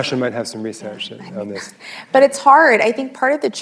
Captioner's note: laughs